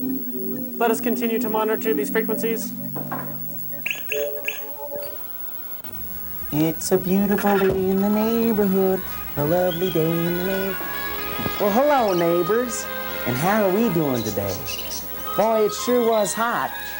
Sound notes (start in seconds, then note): 3.1 beeping